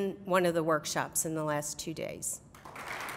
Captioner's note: applause